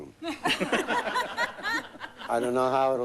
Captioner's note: laughing